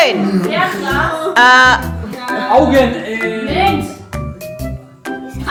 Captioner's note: speaking German